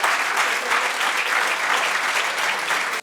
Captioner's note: audience applauds